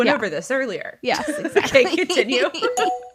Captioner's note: laughing